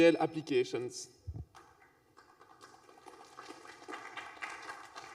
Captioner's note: applause